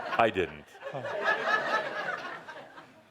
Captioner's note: laughter